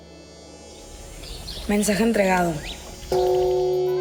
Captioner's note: woman speaking in Spanish